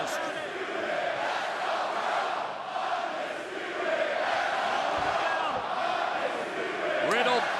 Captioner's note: crowd chatter